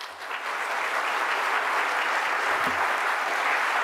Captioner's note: clapping